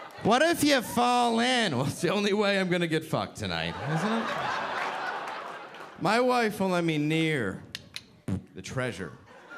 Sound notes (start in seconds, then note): 5.2 audience laughing